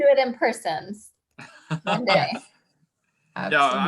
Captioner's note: giggles; laughs